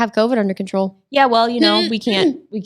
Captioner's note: clearing throat